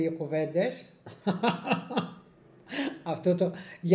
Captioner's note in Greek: Γέλιο